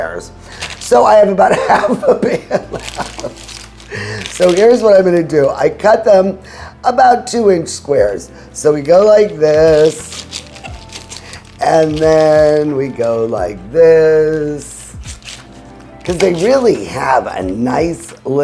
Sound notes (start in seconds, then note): 3.1 laughing